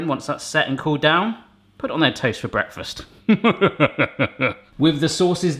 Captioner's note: sinister laughing